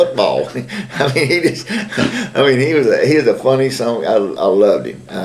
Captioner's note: laughter